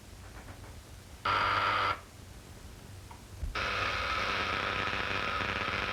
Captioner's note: buzzing sound